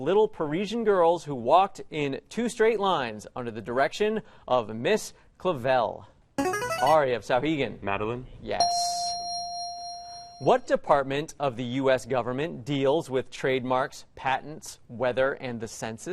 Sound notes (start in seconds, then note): 6.4 player buzzer; 8.6 ding